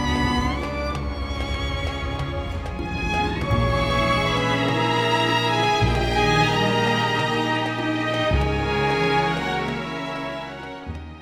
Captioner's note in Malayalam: കരഘോഷം